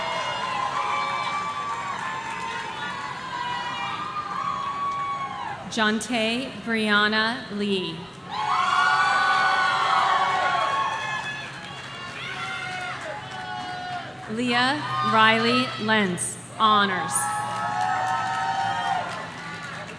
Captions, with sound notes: Ante Brianna Lee. (audience cheering) Leah Riley Lens, Honors.